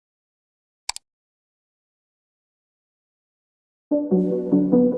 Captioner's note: mouse clicks; pensive electronic music